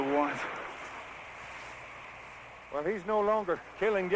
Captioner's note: shouting